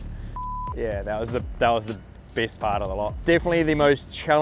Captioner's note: imitates engine revving; beeps